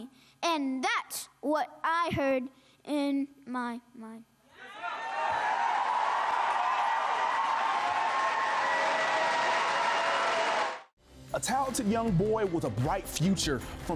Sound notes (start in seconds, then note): 4.6 crowd cheering; 4.8 audience applauding